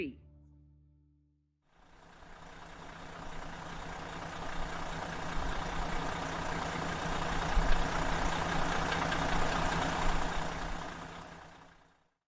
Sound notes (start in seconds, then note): 1.8 engine running